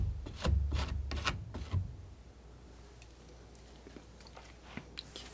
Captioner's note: scratching